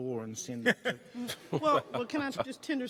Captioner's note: chuckling